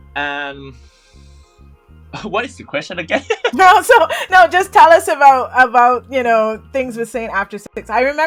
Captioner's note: laughter